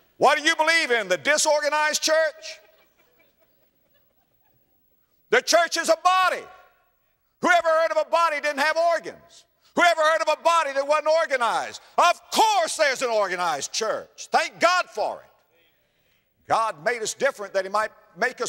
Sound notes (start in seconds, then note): 5.2 laughter